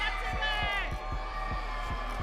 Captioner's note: audience cheering